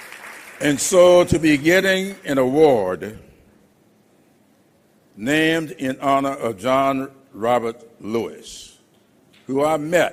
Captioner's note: applause